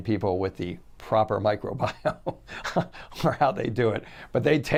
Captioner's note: chuckles